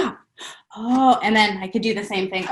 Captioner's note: gasps